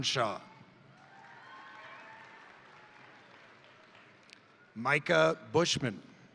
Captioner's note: crowd cheering; crowd applauding